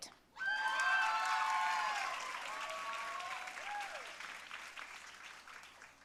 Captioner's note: audience cheering and applauding